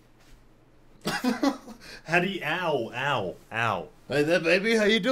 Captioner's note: laughing